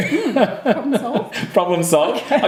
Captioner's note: laughing